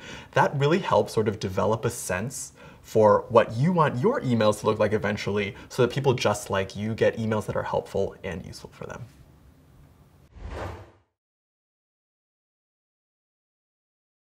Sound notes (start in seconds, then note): 10.3 swipe